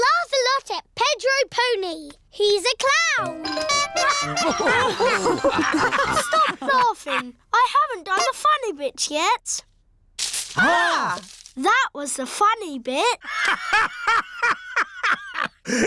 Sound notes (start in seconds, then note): 3.2 toots horn; 4.0 all laugh; 13.3 laughs